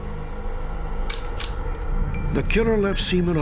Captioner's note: shutter click